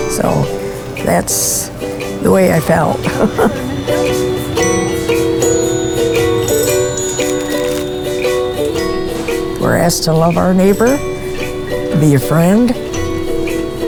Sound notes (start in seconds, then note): 2.8 laughs; 4.6 cheerful music; 7.2 crackling